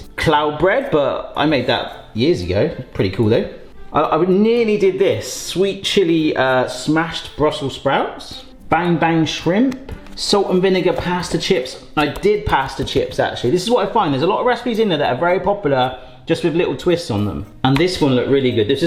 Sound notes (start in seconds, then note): none